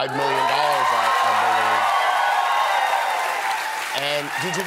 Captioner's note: applause